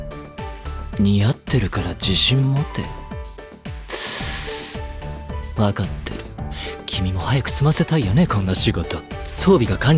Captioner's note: inhales